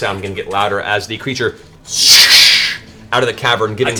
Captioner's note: swoosh